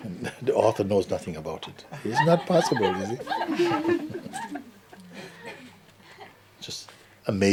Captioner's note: laughter; laughter